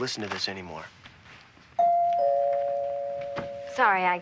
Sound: doorbell rings

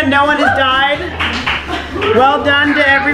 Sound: clapping & laughter; people whooping

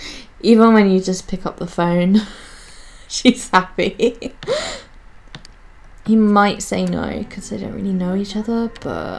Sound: wheezes

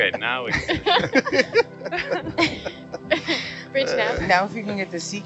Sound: everyone laughs

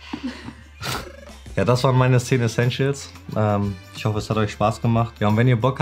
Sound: pair laughs; speaking foreign language

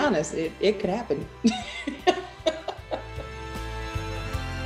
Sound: laughs

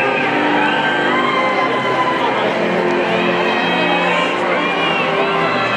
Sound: people cheering

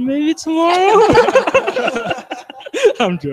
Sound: all laugh

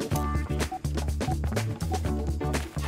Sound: beeping

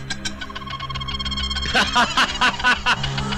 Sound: laughing

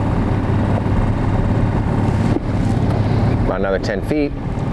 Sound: engine revving

